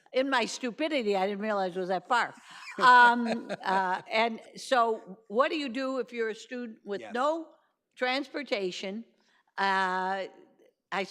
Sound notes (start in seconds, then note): 2.6 laughing